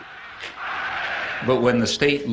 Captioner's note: crowd